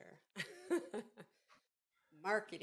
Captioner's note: laughs softly